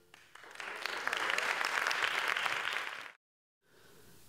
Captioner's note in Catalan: Aplaudiments